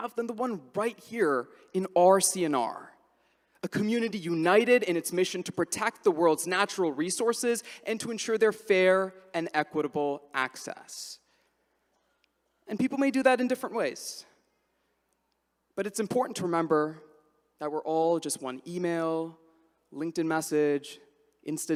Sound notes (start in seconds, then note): none